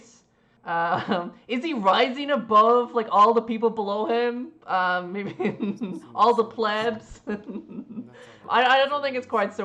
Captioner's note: laughs